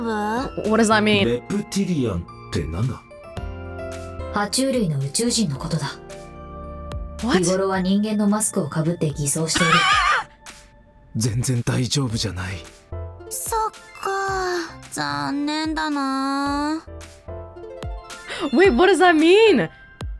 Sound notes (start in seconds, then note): 9.5 wheezes